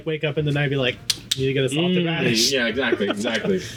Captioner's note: smacks hand